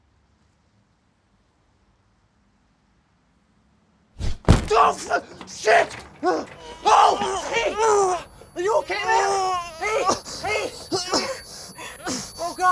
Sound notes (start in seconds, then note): 4.7 Mark groaning; 8.8 Mark grunting; 10.8 piercing beeping